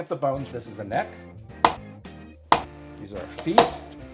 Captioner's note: loud knife banging